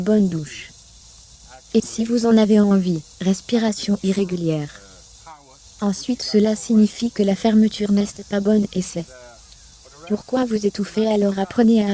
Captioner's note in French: respiration irrégulière